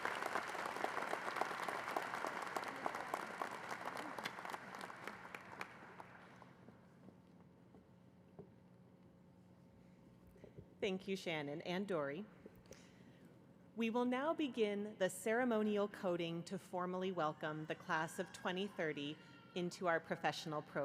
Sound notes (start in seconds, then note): 4.7 applause